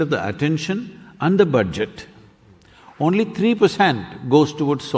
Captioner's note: speaks in German – not transcribed